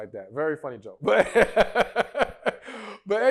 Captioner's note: laughs